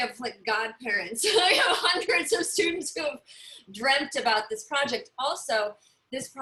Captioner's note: laughter